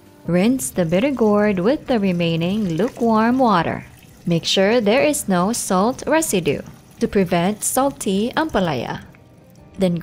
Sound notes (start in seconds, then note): 0.2 water pouring; 3.1 water trickling, Music; 6.1 water trickling; 8.5 water pouring, Music